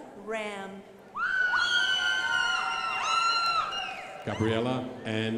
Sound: crowd applauding

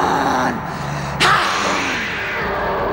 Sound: grunts

